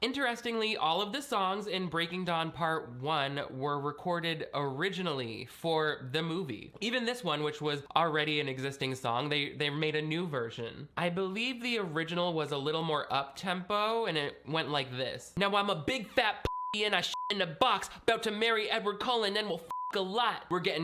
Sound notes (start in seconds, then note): 16.4 beep; 19.6 beep